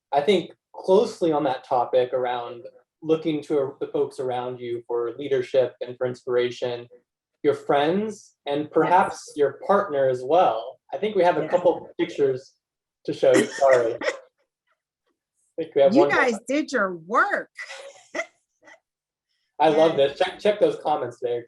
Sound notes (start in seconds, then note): 17.6 laugh